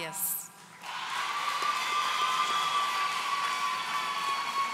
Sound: audience cheering

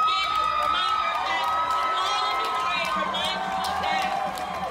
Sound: people cheering

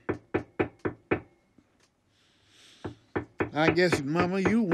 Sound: hammer tapping

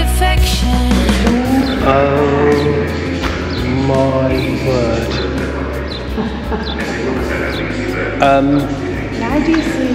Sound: laughter

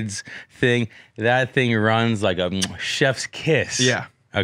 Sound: kissing noise

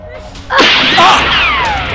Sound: gunshot

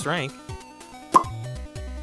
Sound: pop!

